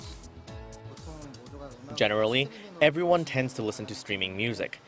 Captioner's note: Korean